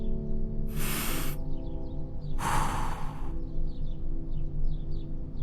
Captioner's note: takes a deep breath